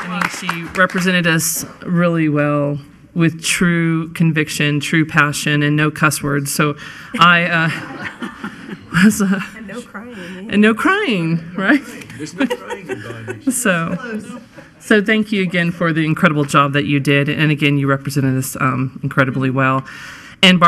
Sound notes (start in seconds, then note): 0.0 applauding; 7.4 laughing